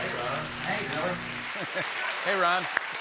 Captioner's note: laughs